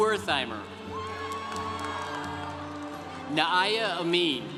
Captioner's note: congregation cheering